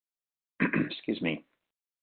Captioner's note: clears throat